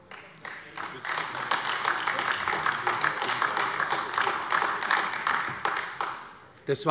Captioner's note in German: Beifall AfD